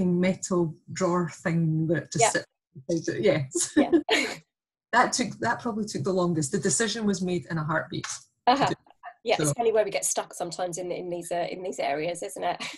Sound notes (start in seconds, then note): 3.6 laughter